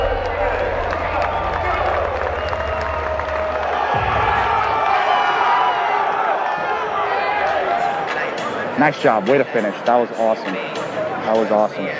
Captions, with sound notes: (audience cheering) (audience cheering) - Nice job. Way to finish. That was awesome. That was awesome.